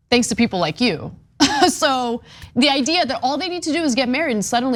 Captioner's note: laugh